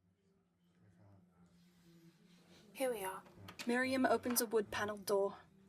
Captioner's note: door opening and closing. people chattering